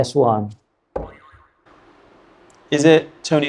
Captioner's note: buzzer sounds